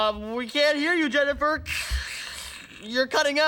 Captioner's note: making static noise